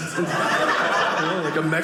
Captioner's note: audience laughing